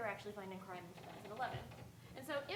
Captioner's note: speaking faintly